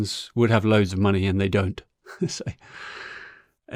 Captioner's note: chuckles